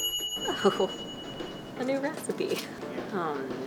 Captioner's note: timer rings; laughs